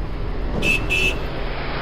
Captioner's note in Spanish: Bip Bip